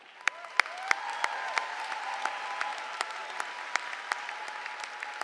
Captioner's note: applause